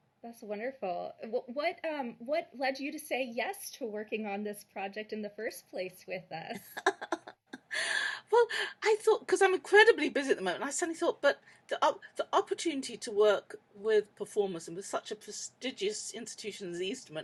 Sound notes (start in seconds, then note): 6.6 laughs